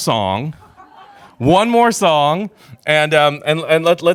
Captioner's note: crowd laughs